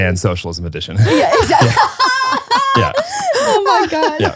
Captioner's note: laugh